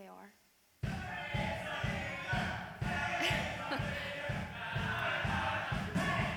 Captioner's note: crowd chants